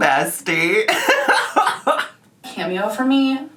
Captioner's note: laughing